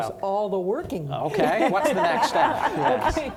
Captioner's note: laughing